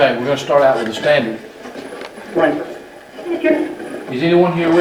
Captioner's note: radio static noises